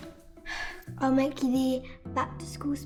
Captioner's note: sighing